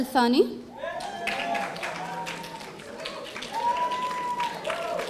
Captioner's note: audience applauding